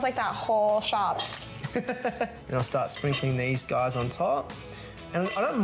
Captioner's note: laughs